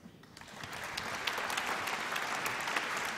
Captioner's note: applause